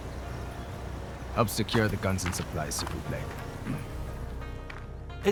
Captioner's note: in french